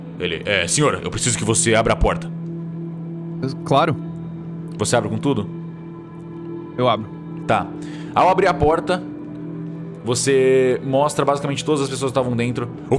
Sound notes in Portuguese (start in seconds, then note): none